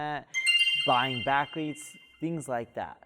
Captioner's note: chime